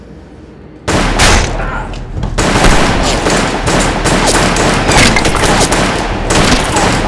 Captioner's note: guns blasting; bullets pinging